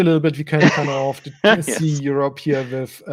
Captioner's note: laughing